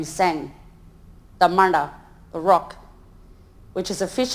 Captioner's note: speaks in foreign language